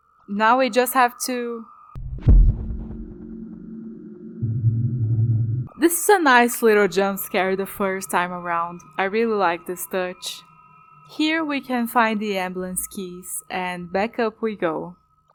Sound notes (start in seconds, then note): 2.0 thud